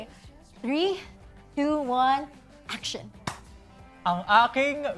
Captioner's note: claps; in Tagalog